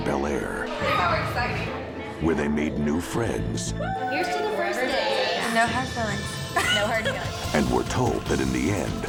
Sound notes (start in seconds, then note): 6.5 laughs